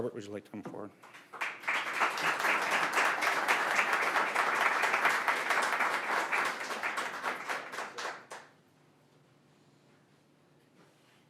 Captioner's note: applause